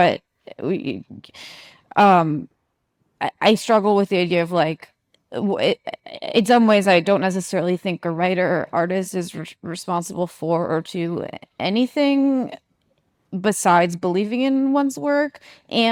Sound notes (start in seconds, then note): none